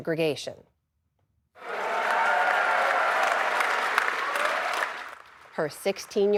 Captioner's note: cheering